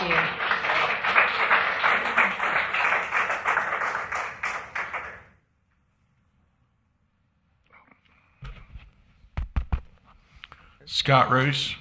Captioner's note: applause